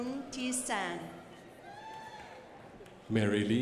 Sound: crowd applauding

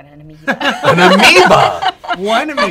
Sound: laughter

